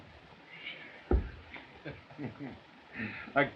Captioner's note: chuckling